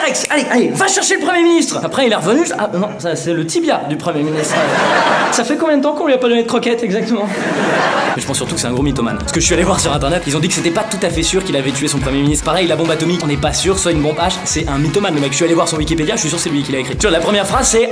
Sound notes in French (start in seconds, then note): 7.2 Rires